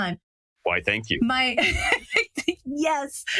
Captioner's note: laugh